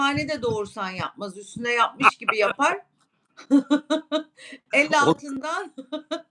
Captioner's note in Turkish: kahkaha